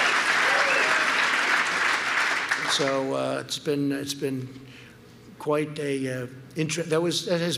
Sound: applause

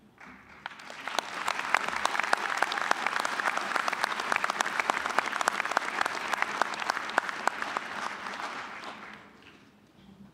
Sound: applause

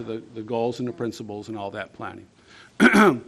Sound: clearing throat

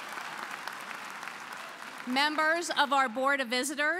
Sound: applause

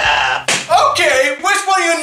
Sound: door Slam

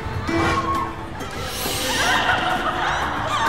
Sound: laughter

